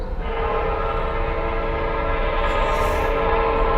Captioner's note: horn blaring louder